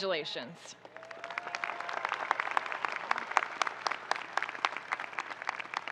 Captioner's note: audience cheering and applauding